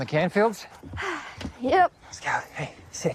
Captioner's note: sighs